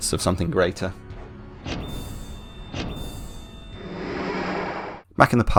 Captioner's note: more Poor frame rate time-travel noises